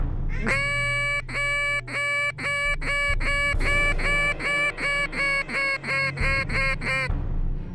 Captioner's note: duck calls